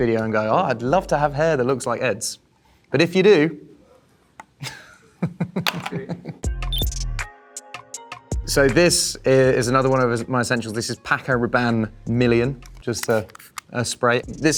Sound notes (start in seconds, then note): 4.6 chuckles; 6.4 soft music